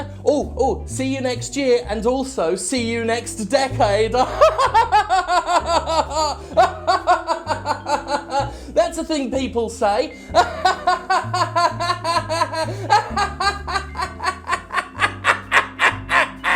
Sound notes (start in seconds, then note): 10.3 laughs maniacally